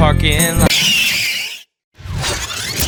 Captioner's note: tape rewinding; wheels screeching